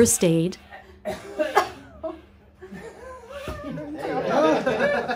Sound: both cough; everybody laugh

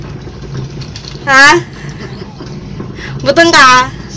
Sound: chuckles

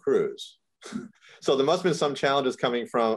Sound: chuckles

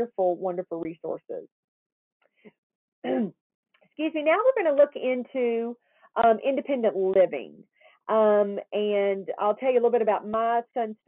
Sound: coughs

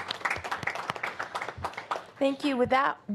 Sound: applause

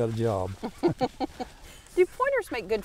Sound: laughing

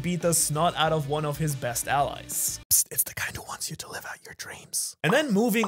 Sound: whispered

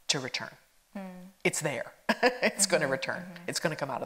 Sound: laughs

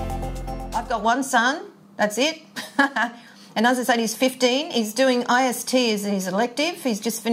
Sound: chuckles

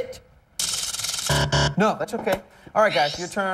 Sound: buzzer

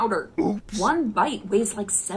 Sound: oops sound effect

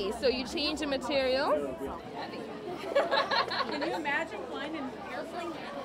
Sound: crowd noises

